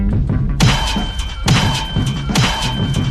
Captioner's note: gunshots